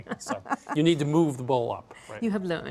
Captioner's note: laughs